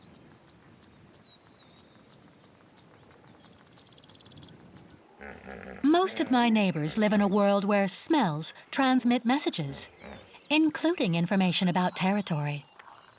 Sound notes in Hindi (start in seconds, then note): 2.8 चहचहाहट